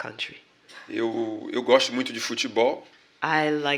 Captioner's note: speaking portuguese